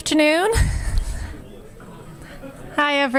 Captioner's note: audience chattering